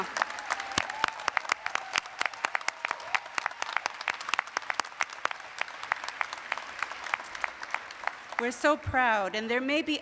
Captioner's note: applause, cheering